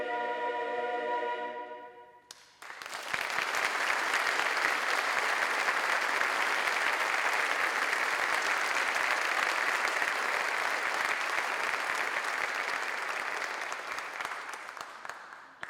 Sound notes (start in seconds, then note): 2.2 applause